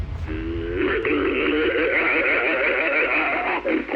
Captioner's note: guttural sounds